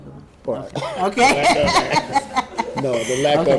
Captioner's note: laughs